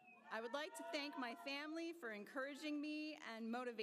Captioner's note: applause